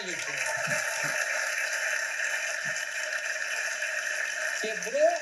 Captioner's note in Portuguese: aplausos